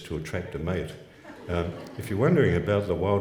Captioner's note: laughs